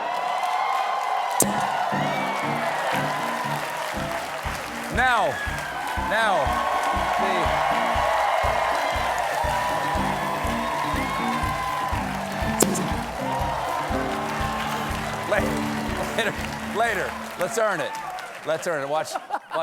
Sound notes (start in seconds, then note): 0.2 cheers and applause